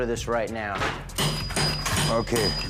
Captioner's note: metals clacking